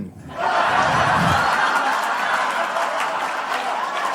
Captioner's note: laughter/Applause